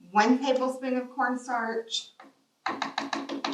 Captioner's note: rapid tapping of the spoon